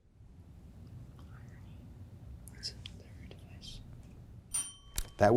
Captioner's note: faintly speaking